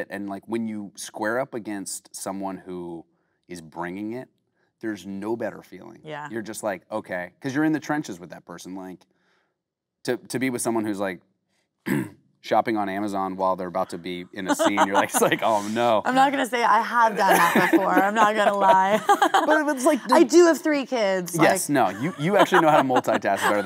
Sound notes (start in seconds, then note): 11.8 clearinh throat; 14.3 Kate laughing; 17.1 laughing